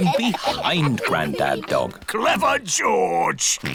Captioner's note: snorts